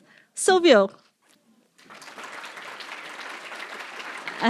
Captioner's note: applause